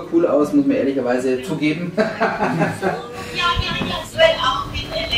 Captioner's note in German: Lachen